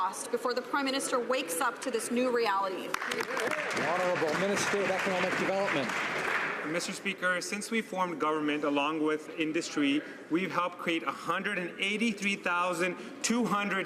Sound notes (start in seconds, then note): 5.9 some Applause